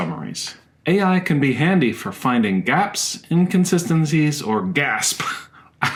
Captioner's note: gasp!